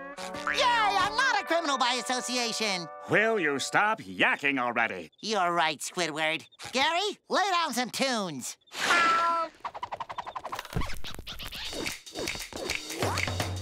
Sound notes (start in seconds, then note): 9.6 record scratching; 11.7 all snapping fingers